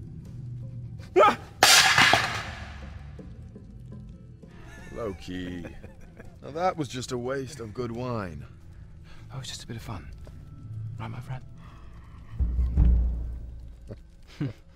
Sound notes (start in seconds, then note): 1.6 plate crashes; 4.6 giggles